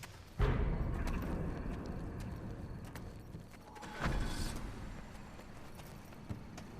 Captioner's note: soft ominous music; engine starting